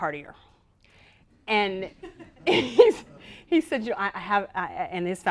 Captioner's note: laughter